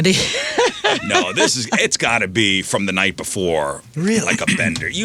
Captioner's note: laughs